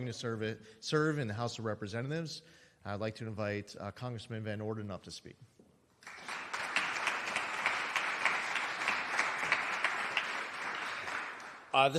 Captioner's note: applause